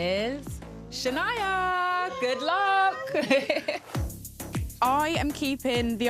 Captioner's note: laughs